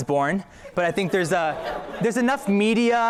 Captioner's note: laughter